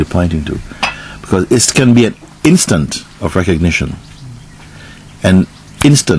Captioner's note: snaps fingers